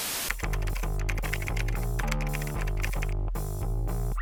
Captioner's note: keyboard typing